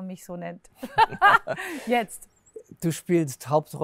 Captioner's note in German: lacht